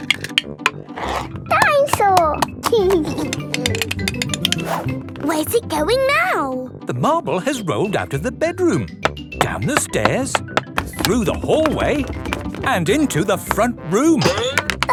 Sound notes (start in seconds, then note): 3.2 giggling